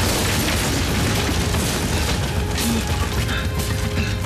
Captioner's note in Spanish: estruendo